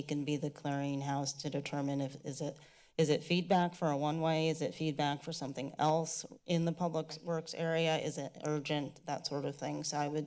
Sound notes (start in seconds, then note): none